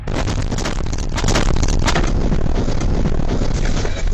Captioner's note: audio glitching